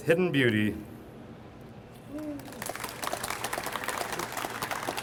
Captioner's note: audience applauds